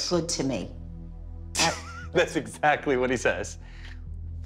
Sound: laughs

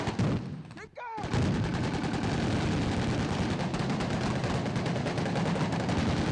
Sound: voiceover; rapid, continuous gunfire

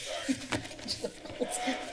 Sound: background chatter

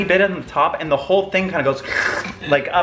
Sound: slurps

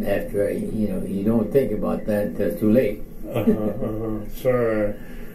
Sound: chuckles

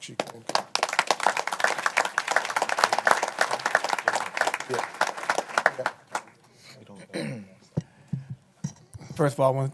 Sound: applause

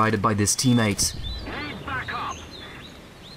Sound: desperate call for help

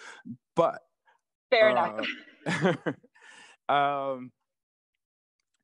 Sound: laughter

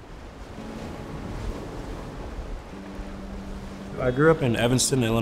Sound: waves crashing

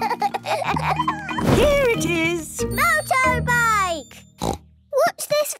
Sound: snort

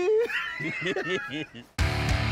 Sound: laughter

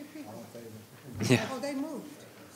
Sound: chuckling

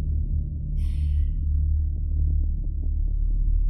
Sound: sigh

